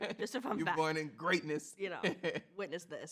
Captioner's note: laughs